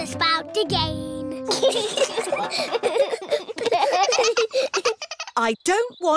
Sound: all giggling

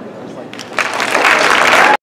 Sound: applause

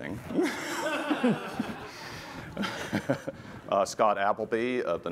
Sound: laughter

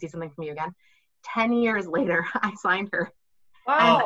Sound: laughing

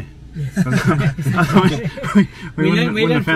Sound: laughing

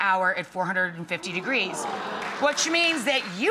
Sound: audience wowing

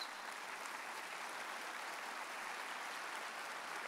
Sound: audience applauds

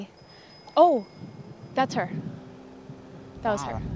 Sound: bell ringing in the distance

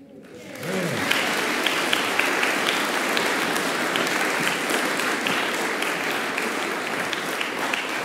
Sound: applause

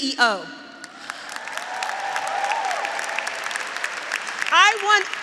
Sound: graduates applauding; graduates cheering

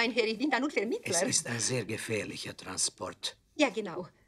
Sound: in German; in German

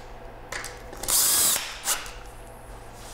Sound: whirring of the drill

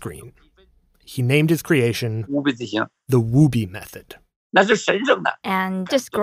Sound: speaking Mandarin

